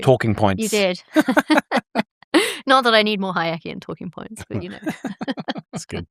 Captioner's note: laughs